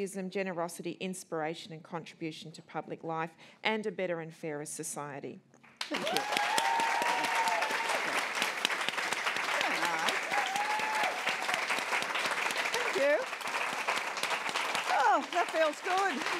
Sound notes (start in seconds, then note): 5.7 applause and Cheering